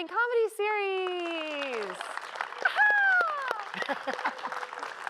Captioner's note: applause